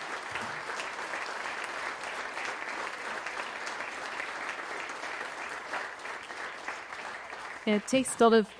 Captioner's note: applause